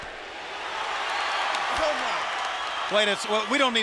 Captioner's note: crowd chatter; crowd cheering